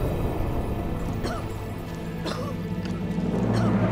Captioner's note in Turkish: Osman öksürüyor